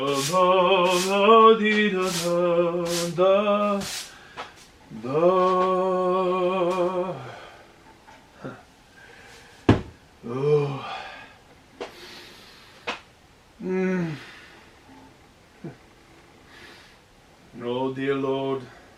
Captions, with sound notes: [Sighs.] Oh, dear lord.